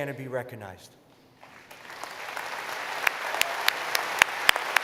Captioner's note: applause